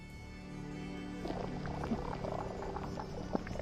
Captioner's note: sounds of pips and pops